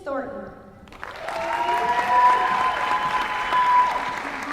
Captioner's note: applause